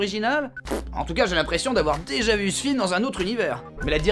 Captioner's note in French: bruit de pet chaleureux